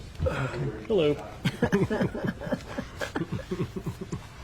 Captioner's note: laughing